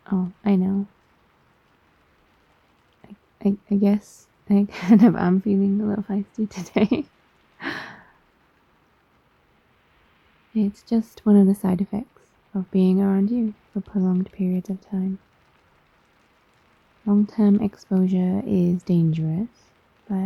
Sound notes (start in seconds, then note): 6.6 laughs